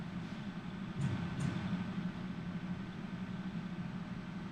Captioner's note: heartbeats